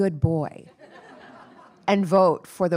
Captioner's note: attendees laughing